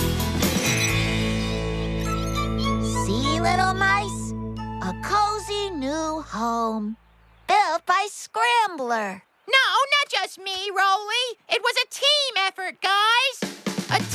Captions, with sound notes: ( Mice Squeak ) SEE, LITTLE MICE. A COZY NEW HOME... BUILT BY SCRAMBLER! NO, NOT JUST ME, ROLEY. IT WAS A TEAM EFFORT, GUYS!